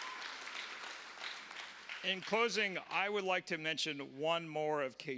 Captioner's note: applause